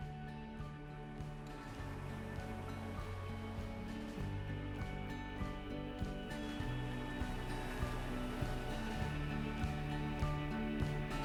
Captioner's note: wavy sounds and music increase